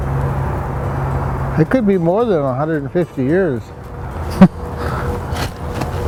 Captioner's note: chuckles